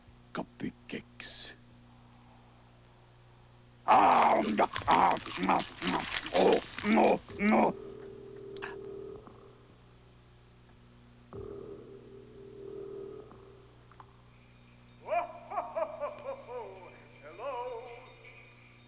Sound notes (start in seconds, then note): 8.2 muffled ring; 10.2 ring